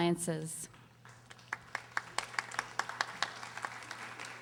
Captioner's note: audience applauding